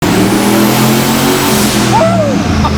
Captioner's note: engine revving loudly